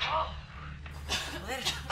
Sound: coughs

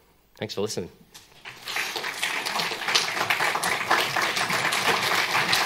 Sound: applause

